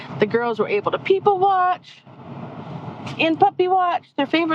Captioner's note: none